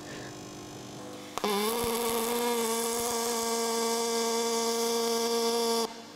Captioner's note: welding machine sounding